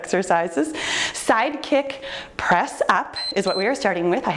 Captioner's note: timer beeps